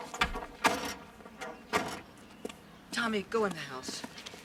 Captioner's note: doors thudding